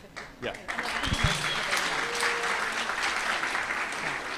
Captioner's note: applause, cheering